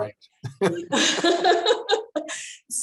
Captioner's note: laughter